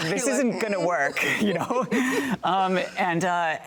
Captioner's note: both laughing